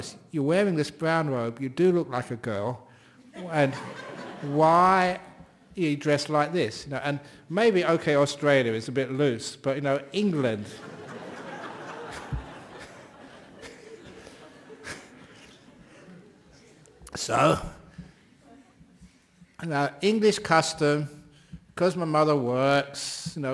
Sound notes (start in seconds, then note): 10.7 laughter